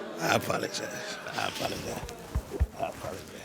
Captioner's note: audience moaning disapprovingly